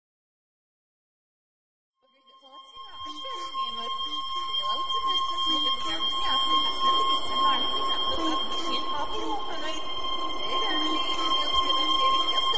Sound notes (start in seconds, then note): 1.2 distorted Noise Ringing; 8.7 distorted Noises Continues